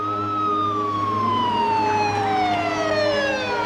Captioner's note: siren wailing